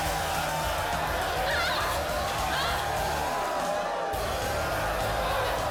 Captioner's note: crowd cheering; women grunting; energetic rock music